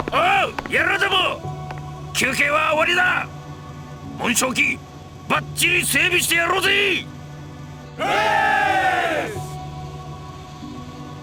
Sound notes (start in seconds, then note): 8.0 cheer